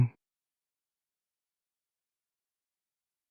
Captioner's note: blank Audio